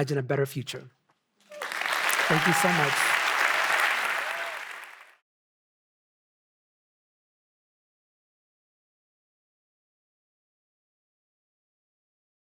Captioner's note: audience applauding